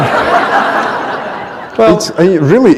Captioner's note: laughter